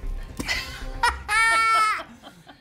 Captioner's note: laughter